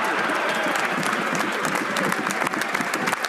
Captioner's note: some Applause